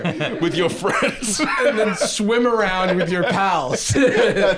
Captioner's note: laughing